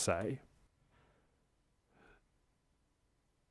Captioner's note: silence